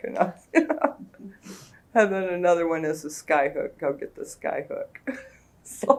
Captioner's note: laughs